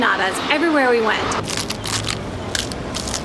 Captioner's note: crunching